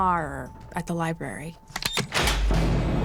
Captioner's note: lock clicks